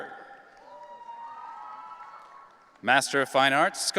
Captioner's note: audience cheering